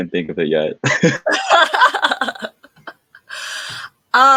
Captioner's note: all laughing